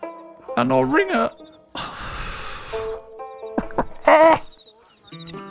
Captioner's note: cries